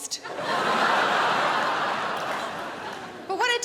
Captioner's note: crowd laughs